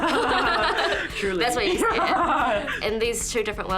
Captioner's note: chuckles; chuckling